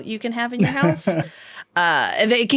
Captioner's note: laughing